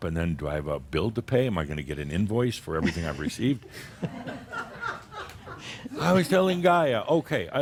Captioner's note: some laughter